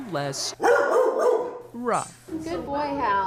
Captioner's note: dog barks